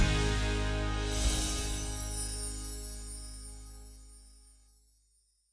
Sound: chimes tinkling

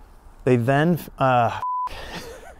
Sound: beep; laughs

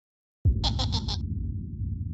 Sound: chuckling

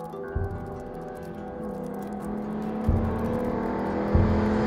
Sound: car engine roaring

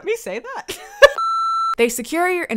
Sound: laughs; beep

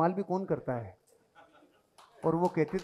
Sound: chuckles

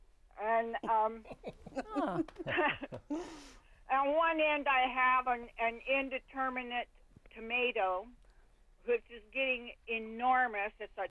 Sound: laughing

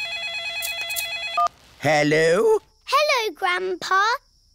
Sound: phone rings

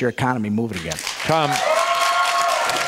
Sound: audience applause

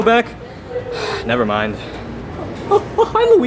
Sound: sighs

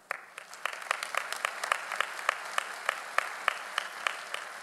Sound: audience applauding

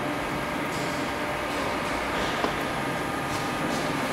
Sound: quiet engine roar

